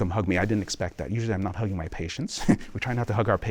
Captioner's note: laughter